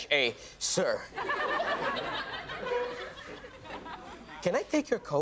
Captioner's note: audience laughs